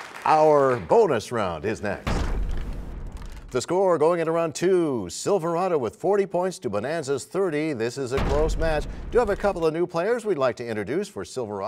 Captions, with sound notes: And our bonus round is next. [crashing sound] The score going into Round 2, Silverado with 40 points to Bonanza's 30. This is a close match. [crashing sound] We do you have some new players